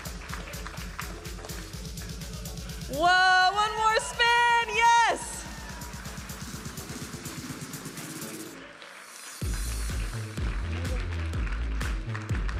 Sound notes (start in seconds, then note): 0.0 audience applauding and cheering; 0.3 vibrant music; 5.6 audience applauding and cheering; 9.7 vibrant music